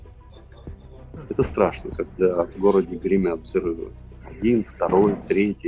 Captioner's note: explosions